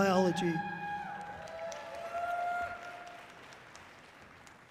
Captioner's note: audience cheering loudly